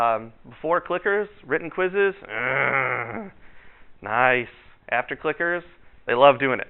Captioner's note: growls